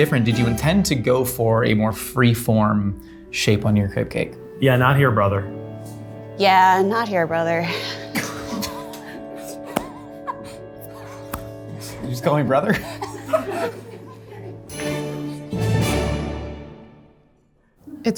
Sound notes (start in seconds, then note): 7.7 laughing; 14.6 triumphant music